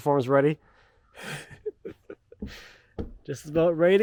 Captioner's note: laughing